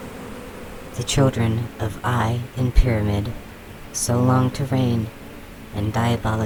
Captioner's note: the frenzied swarm calms